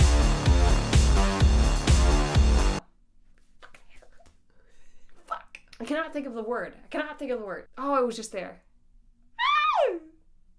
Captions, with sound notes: Fuck, I cannot think of the word. I cannot think of the word. Oh, I was just there. (screams)